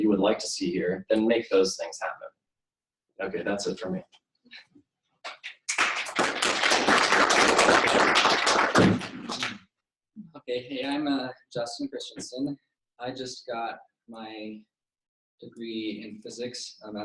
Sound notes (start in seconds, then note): 5.3 applause